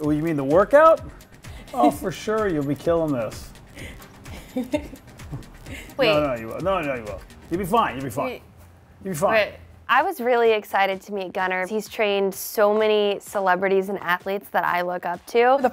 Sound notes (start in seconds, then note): 4.2 gentle laughing